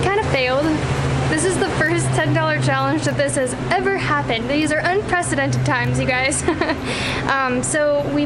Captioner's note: laughter